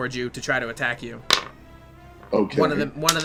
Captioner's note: dice rolling